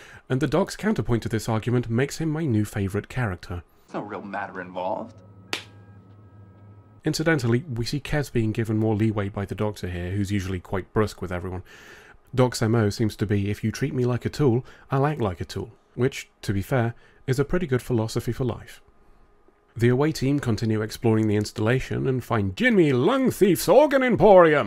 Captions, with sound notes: and the Doc's counterpoint to this argument makes him my new favourite character. There's no real matter involved. *Delicious slap noise* Incidentally, we see Kes being given more leeway by the Doctor here, who's usually quite brusque with everyone. Doc's M.O. seems to be "if you treat me like a tool, I'll act like a tool" which, to be fair, is a pretty good philosophy for life. The away team continue exploring the installation and find Jimmy Lungthief's Organ Emporium,